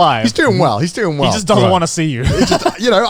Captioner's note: laughing